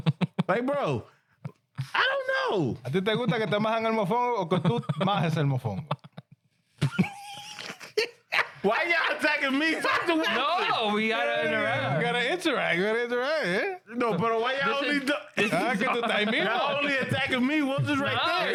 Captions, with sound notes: Hey bro, I don't know. (Speaking In Foreign Language) (Laughing) Why y'all attacking me? (Speaking In Foreign Language) Gotta interact, gotta interact. (Speaking In Foreign Language) The only attack of me was his right hand.